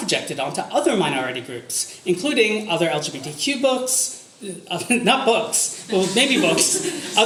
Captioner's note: audience laughter